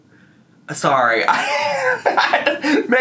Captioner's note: laughs